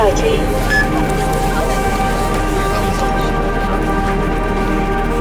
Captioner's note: tone beeps